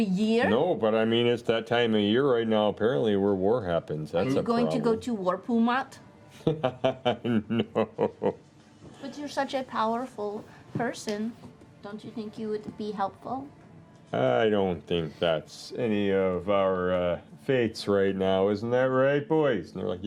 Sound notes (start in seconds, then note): 6.4 laughs